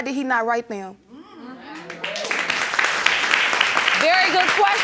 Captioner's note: applauding